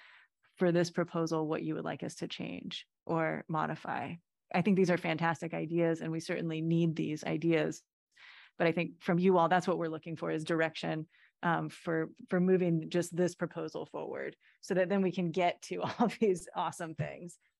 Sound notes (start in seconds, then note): 15.6 laughter